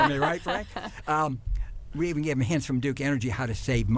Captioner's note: laughter